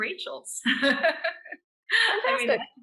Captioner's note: laughing